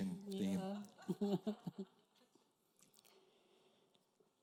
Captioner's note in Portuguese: risos da plateia